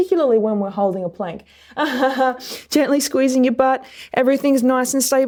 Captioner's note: laughs